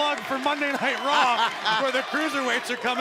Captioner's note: laughter